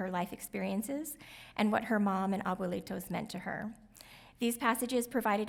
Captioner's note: speaks in Spanish